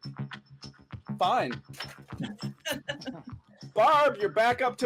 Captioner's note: laughter